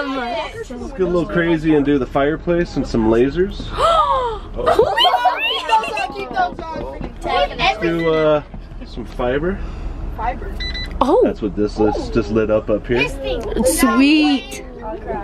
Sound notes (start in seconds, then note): 4.0 gasps